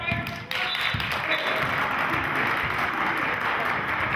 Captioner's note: whistling; applauding